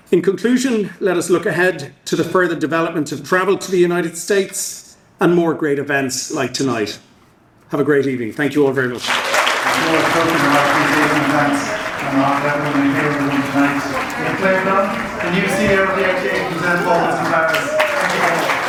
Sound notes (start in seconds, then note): 10.0 audience applauding; 14.9 audience applauding loudly